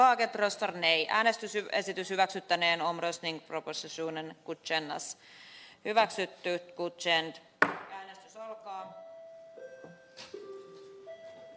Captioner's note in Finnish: nuijan kopautus